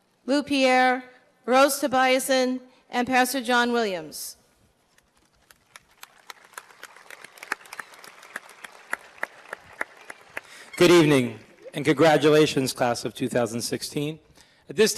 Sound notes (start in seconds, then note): 5.0 applause